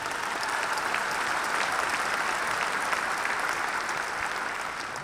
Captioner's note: applause